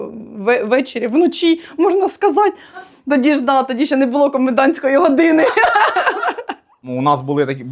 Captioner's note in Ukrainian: сміх